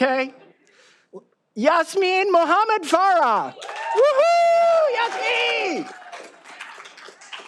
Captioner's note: all applauding